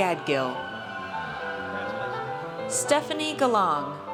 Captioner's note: audience cheers